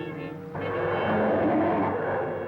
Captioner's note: growling